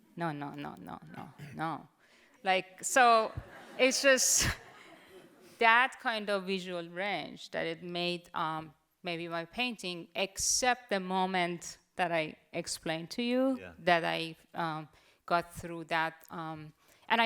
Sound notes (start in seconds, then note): 3.4 audience laughs